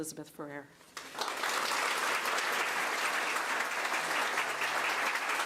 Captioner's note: crowd applause